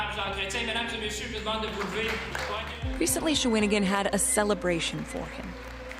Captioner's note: speaking French; applause